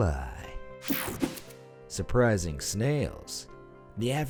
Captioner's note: air whooshing